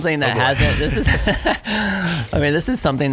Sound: laughing

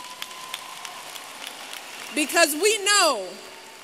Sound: applause

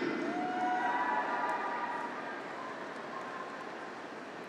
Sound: graduates cheer

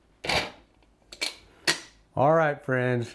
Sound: dutch oven clattering

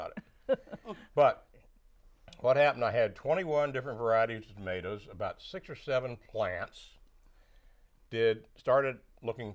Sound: laughing

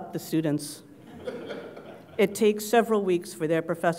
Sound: laugh

